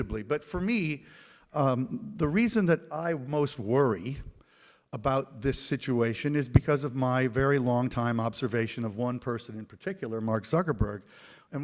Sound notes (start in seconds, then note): none